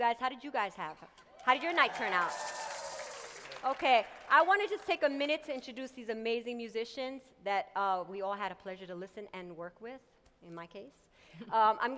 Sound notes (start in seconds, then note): 1.5 audience cheers